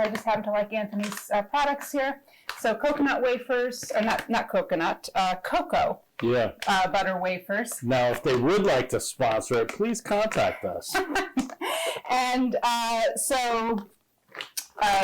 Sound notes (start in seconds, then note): 10.6 laughing